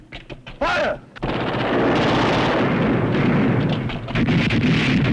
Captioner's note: gunfire